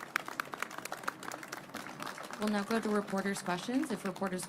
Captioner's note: applause